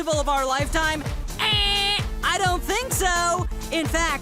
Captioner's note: makes buzzer noise